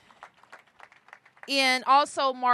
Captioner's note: applause